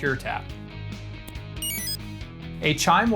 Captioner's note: exit chime